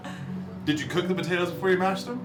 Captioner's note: laughs